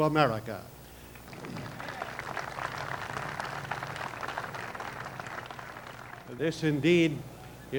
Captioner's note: applause